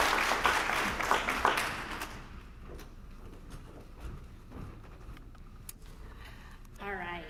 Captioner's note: applause